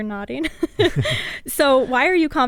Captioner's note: both laughing